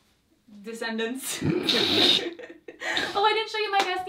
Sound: both laugh

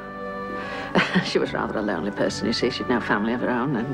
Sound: laughs

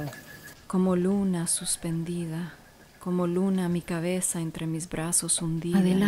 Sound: speaking Spanish

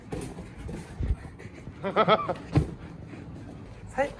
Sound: chuckle

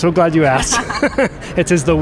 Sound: laughter

